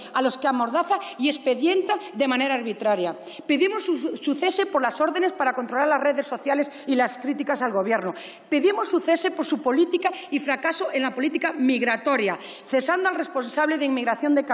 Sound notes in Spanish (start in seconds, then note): none